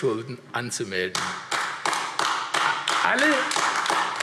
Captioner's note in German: Beifall AfD